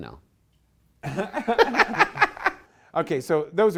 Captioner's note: laughter